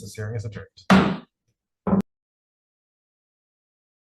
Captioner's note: gavel bangs